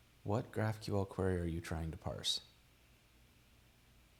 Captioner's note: none